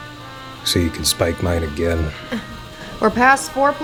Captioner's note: chuckles